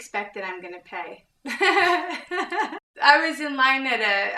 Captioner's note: laughing